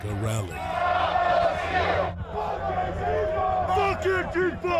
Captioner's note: crowd chanting